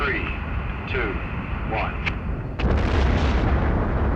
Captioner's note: man On Radio